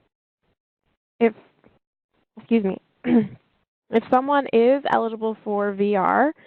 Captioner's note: cough